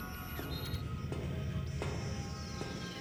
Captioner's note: approaching footsteps